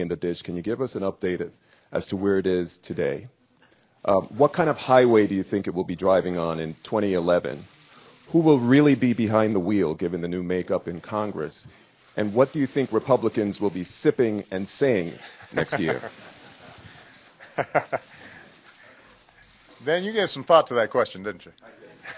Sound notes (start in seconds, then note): 15.2 laughter